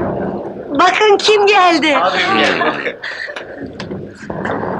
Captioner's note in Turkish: 'Ağbim gelmiş' sözü ve sevinç mırıltıları